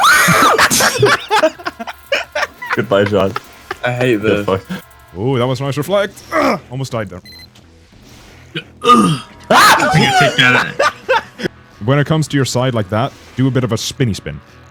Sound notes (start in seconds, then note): 0.0 terrified Shriek; 6.2 grunts; 8.5 grunt